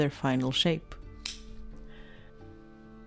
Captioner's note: snip